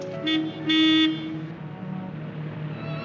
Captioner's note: car honking